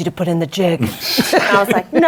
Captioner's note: laughter